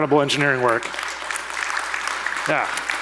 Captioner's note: audience applauds